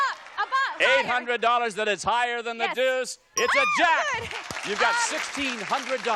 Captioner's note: applause